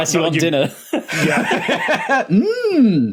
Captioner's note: laugh